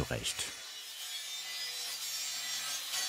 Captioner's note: harsh machine whirring